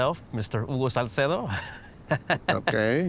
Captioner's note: chuckles